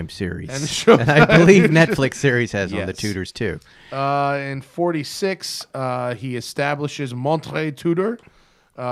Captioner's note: laughs